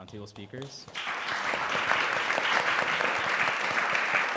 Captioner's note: applause